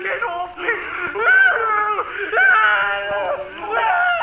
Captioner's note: screaming